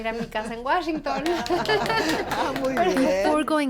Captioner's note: laughs